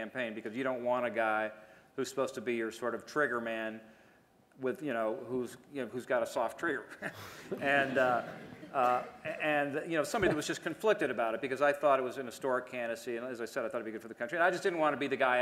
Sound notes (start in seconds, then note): 7.5 laughter